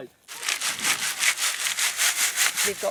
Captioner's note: sound of sieving